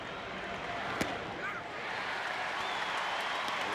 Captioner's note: applause